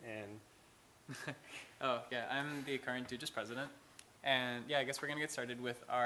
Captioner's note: laughs